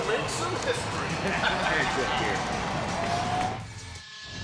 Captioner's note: laughs